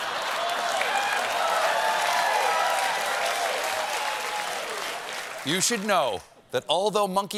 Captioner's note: applause